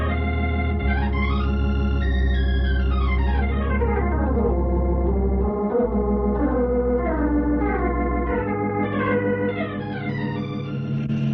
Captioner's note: sirens